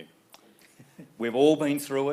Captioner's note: laughing